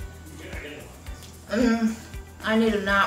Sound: faint voice speaking

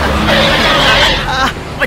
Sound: brakes squeal

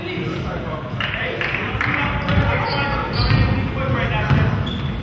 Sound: spectator claps

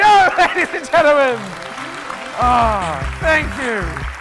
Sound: applauding

